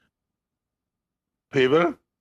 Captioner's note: speaking French